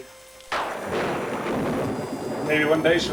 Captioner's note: thunder claps